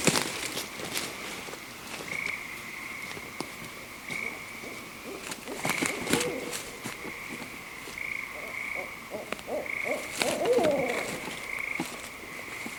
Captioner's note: owls Hooting